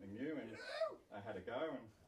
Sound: cheering

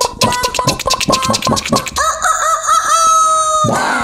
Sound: rooster sound

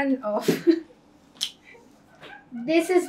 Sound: laughs

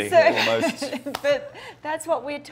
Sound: laughs

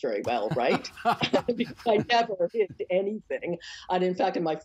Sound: laughter

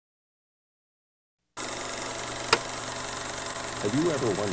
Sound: projector clicking

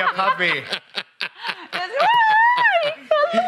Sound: laughs

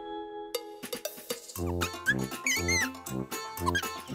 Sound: squeaking

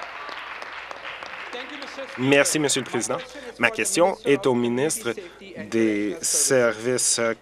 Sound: applause

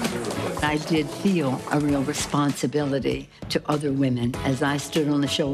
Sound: applause

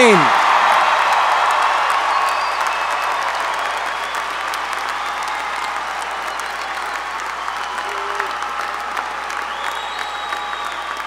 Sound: applause

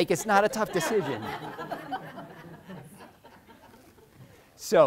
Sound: crowd laughing

